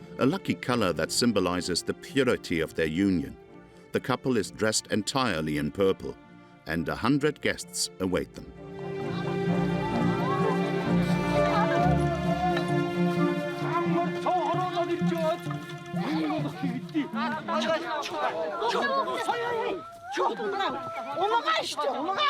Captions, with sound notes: A lucky color that symbolizes the purity of their union. The couple is dressed entirely in purple and a hundred guests await them. [Foreign spoken audio]